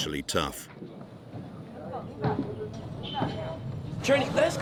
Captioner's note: people chattering